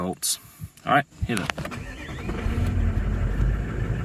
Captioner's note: sound of engine starting